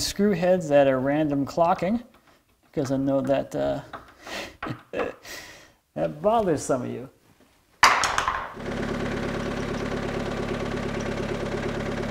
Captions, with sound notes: screw heads that are random clocking because I know that (laughing) that bothers some of you. (tool dropping) (skid-steer rumbling)